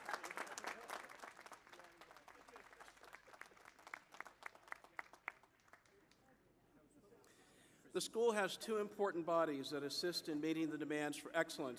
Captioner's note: applause